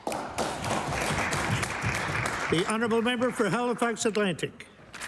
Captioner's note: applause